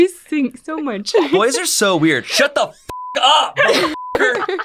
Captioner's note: beep; beep